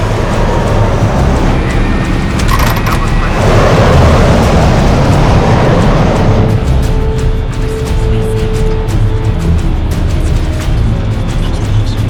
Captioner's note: planes flying; whispers